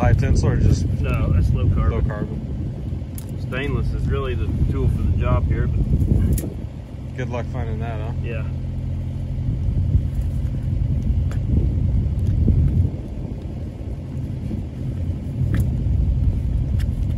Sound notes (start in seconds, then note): 11.0 machinery humming